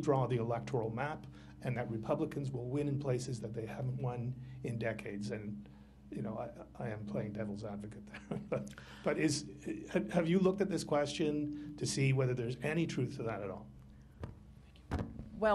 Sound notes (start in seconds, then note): 8.0 laughter